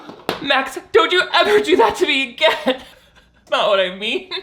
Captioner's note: cries